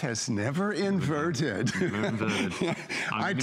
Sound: laughter

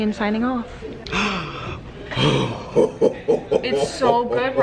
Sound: both gasp

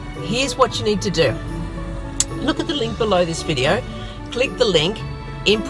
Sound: clicks tongue

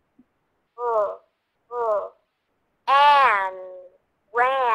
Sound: voiceover

